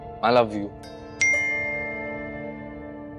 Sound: phone beeping

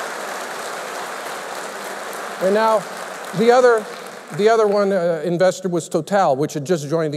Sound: applause

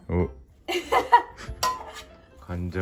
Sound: laughs

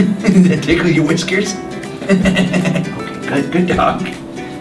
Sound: laughs

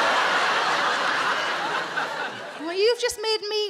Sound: audience laughing

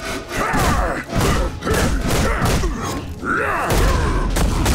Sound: grunting

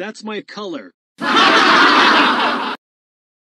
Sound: goanimate crowd laugh sound

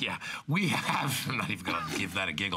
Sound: laughter

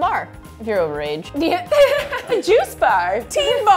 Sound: laughs

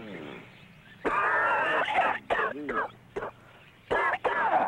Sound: coughing

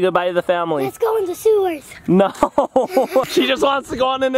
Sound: laughs

